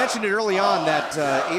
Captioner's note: fans chanting